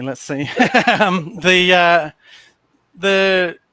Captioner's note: laughs